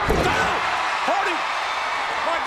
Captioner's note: audience cheering